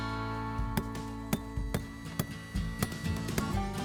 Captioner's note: mallet taps